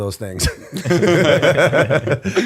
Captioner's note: laughter